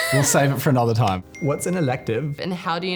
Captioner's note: ping